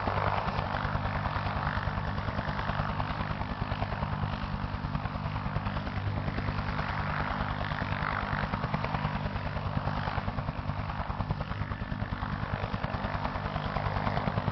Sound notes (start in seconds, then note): none